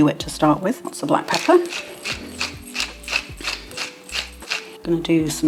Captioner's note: pepper mill grinding